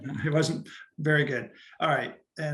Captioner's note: chuckles